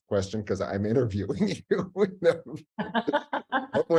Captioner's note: laughing; laughs